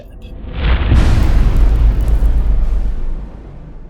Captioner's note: impact